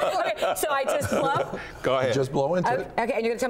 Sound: laughter

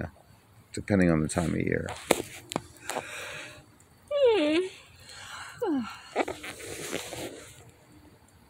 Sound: yawning

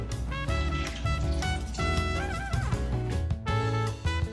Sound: liquid sloshing

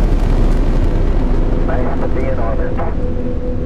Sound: radio voice 4

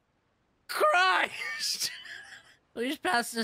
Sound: laughter

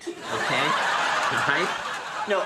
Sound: audience laughs

